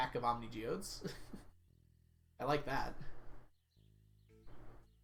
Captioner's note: chuckles